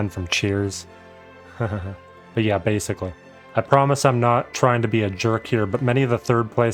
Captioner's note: chuckles